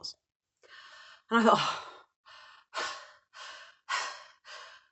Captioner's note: heavy breathing